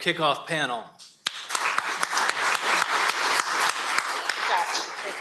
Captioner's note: applause